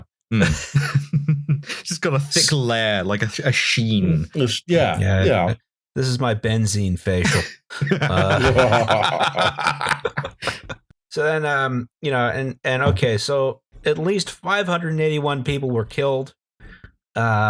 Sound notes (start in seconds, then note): 0.3 laughter; 7.2 laughter